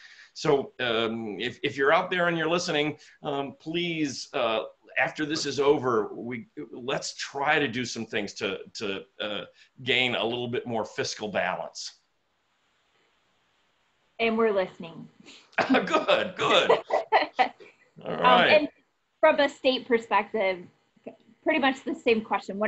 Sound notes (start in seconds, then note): 15.7 laughing